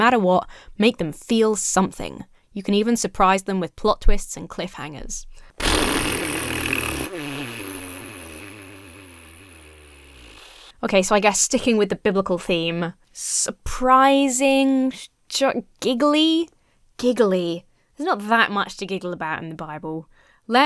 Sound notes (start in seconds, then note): 5.5 blows raspberry